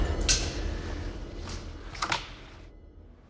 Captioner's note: wood cracking